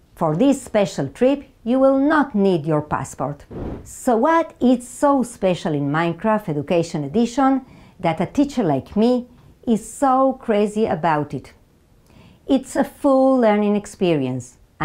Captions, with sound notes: for this special trip you will not need your passport. (slide whooshes) So what is so special in Minecraft Education Edition, that a teacher like me is so crazy about it? It's a full learning experience,